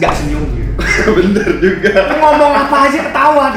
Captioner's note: laughter